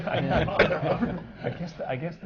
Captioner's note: laughter